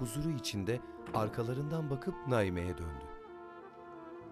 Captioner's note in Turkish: Kapı kapanma sesi